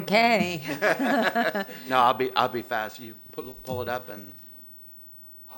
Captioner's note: laughter